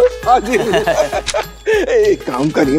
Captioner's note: Both chuckle